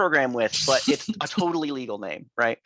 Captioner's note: students chuckling